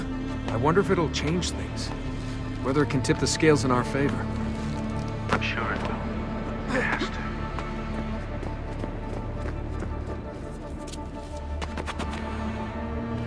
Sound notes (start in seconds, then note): 5.1 Shaun through radio